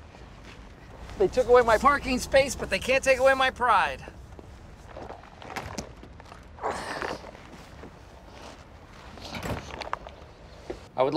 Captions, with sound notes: They took away my parking space, but they can't take away my pride. [ Grunts ] I would like to invite you all